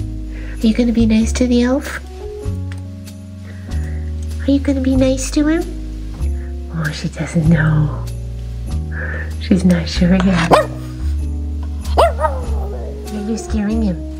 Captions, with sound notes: Are you going to be nice to the elf? Are you going to be nice to him? Oh, she doesn't know! She's not sure yet. (woof) (howl) Yeah, you're scaring him!